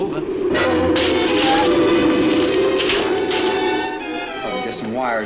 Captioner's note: dark orchestral music; debris clatters